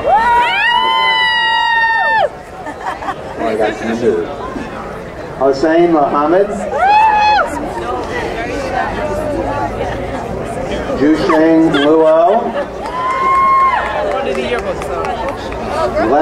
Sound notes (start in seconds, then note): 0.0 crowd cheering; 3.4 man speaks faintly; 6.6 crowd cheering; 13.0 crowd cheering